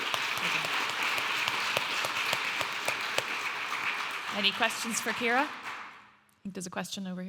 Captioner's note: audience applauding